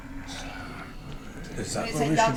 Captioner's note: whispers